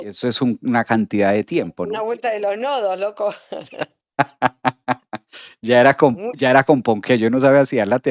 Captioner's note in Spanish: risas